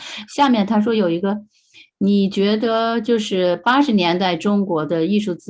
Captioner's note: speaking in foreign language